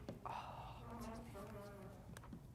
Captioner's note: slight rumbling and whispering